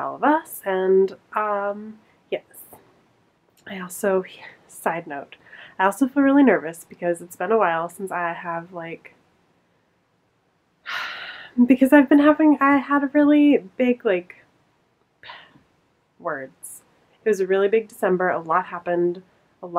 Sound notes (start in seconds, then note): 10.9 sighs